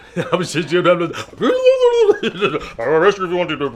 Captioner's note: blubbers excitedly; laughs